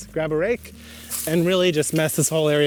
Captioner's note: ground rustles